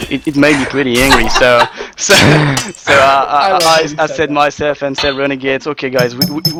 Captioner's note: laughs